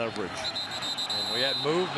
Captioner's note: whistles